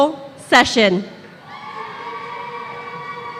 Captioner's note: applause